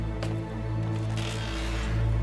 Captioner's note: creaking